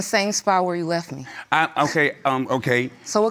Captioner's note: scoffs